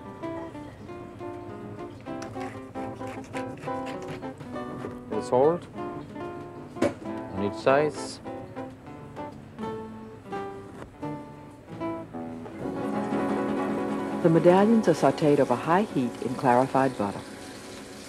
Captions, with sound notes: Salt. Each sides. - [Voiceover] The medallions are sauteed over high heat in clarified butter.